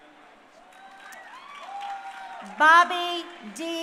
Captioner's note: crowd cheering